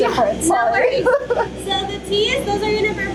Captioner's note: chuckles